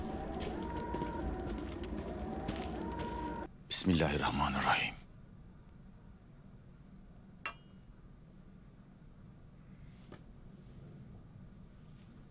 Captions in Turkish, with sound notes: Bismillahirrahmanirrahim. (Sessizlik)